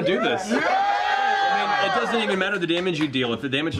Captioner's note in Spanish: vítores